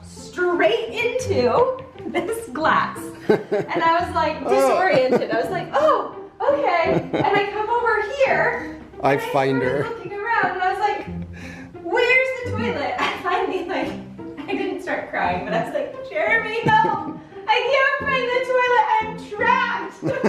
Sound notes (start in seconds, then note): 0.0 bouncy music; 3.2 laughing; 6.8 laughing; 13.0 chuckling; 16.6 laughing; 20.0 laughing